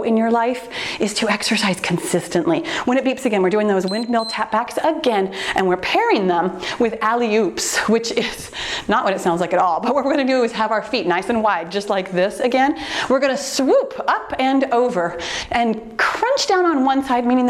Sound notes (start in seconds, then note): 3.8 timer beeps